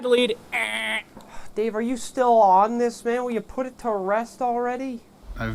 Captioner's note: imitates buzzer; sighs